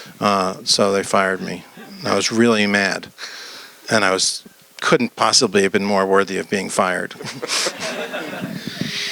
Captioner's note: laughter